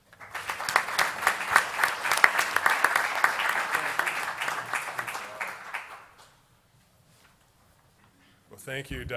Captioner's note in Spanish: Aplausos